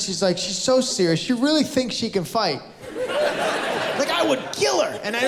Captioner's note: laughter